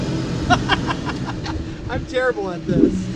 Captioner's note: laughing